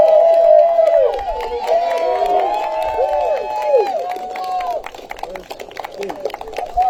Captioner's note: applause